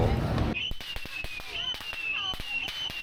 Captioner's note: fire alarm??